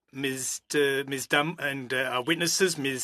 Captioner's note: speaking French